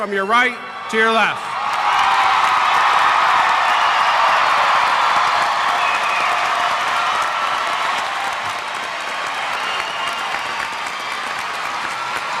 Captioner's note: applause